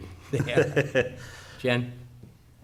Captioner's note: laughing